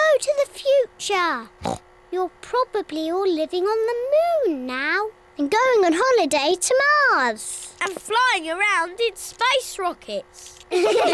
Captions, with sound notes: Hello to the future. (OINKS) You're probably all living on the moon now. And going on holiday to Mars. And flying around in space rockets.